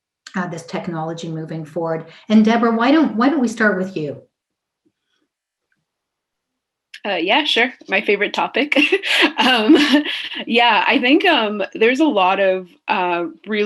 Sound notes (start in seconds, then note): 8.8 laughs loudly